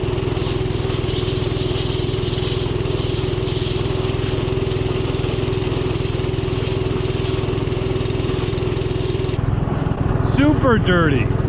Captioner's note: tractor sound